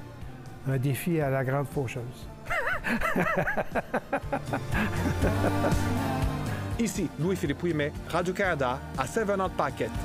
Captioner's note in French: rire